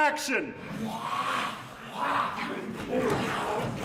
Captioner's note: growling